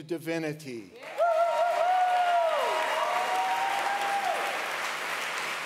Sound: audience applauds

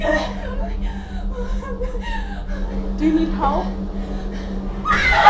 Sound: whimpering; shrieking and moaning

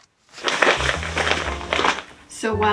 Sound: eco bag crinkling

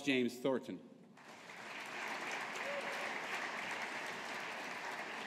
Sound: audience applauding

